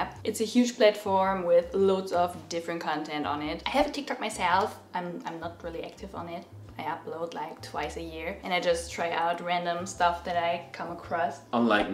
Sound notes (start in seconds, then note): none